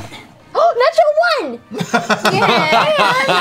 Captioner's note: laughter